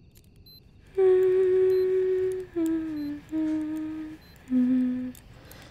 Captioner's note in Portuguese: cantarolando